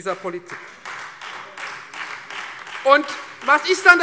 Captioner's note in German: Beifall Freie Demokraten und vereinzelt AfD